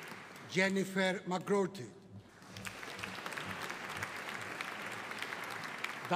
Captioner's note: audience applauding